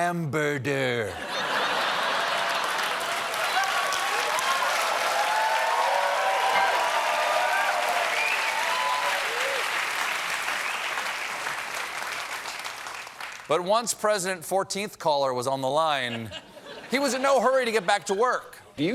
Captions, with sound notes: HAMBERDER." ( LAUGHTER ) ( CHEERS AND APPLAUSE ) ONCE PRESIDENT 14TH CALLER WAS ON THE LINE, HE WAS IN NO HURRY TO GET BACK TO WORK.